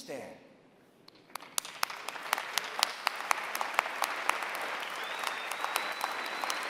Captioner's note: applause